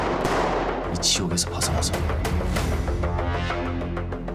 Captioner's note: gunshots; foreign language